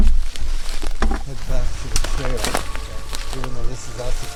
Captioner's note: suspenseful music; twigs snapping